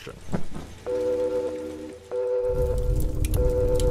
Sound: alarm blares

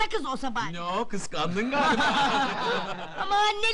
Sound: laughing

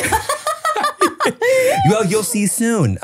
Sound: laughs

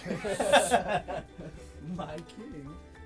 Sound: laughter

